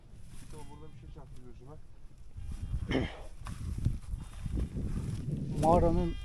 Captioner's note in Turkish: boğazını temizler